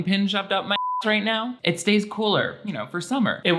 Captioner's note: beep